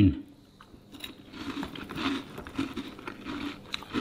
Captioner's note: crunching noises